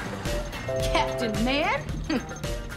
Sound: chuckles

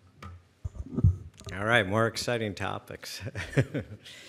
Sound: chuckles

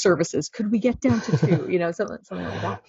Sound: laughing

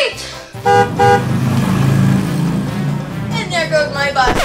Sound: car honking

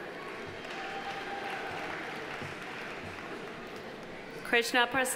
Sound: audience applauding

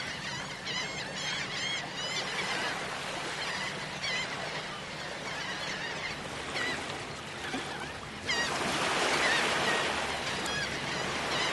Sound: seagulls Cawing

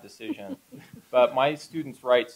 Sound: laughter

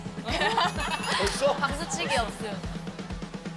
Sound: A clap?

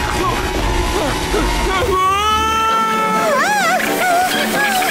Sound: sudden intense music playing; Patrick screaming

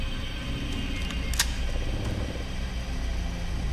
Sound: gun cocking

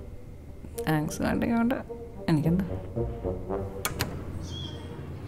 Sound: door closes

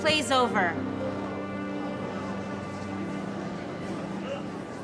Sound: crowd tittering

